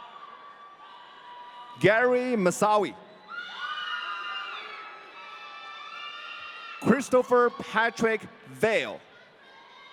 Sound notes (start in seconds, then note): 3.3 audience cheering